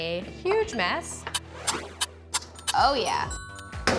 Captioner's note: timer ticking